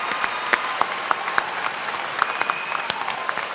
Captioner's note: applause